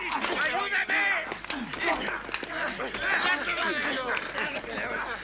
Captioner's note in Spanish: gritan